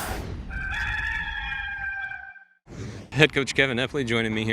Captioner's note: rooster crowing